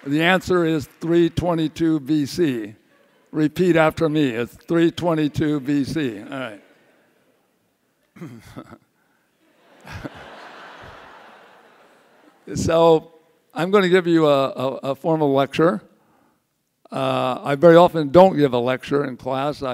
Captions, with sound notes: The answer is 322 B.C., repeat after me, 322 B.C. All right. (chuckles) (audience laughs) So, I'm gonna give you a formal lecture, I very often don't give a lecture in class,